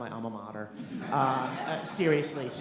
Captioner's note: laughter